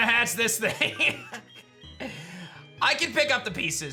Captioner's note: giggles